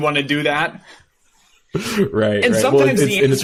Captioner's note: chuckles